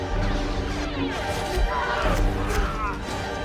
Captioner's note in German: Schreien